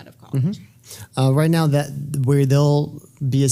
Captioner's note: none